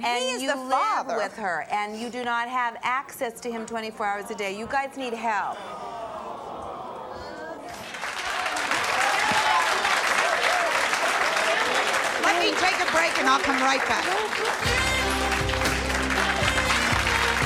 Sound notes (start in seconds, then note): 8.1 audience applauding; 14.5 jazzy music